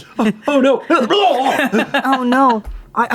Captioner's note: mock retches